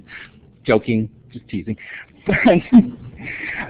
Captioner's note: laughter